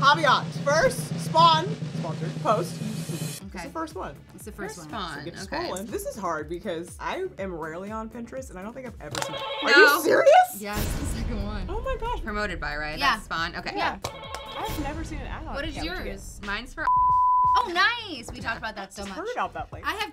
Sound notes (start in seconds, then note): 9.3 buzzer; 14.2 buzzer; 16.8 beep